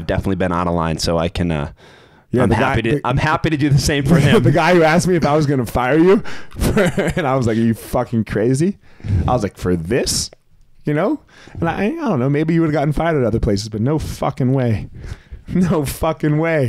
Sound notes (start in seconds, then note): 6.3 chuckles